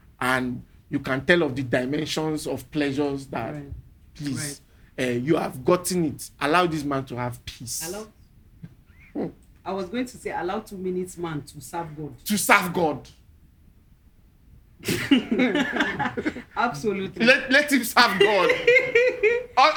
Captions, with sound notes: and you can tell of the dimensions of pleasures that peace. You have gotten it, allow this man to have peace. Hello. I was going to say, allow two minutes man to serve God. To serve God. (laughing) Absolutely. Let him serve God.